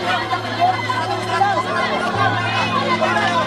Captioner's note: clamoring